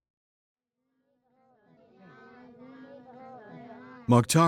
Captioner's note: people chattering